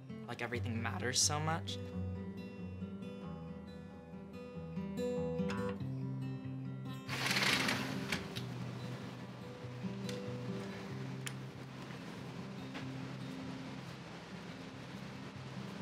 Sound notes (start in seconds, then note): 2.2 guitar playing; 7.1 window opens